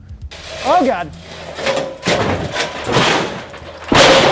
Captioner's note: crashing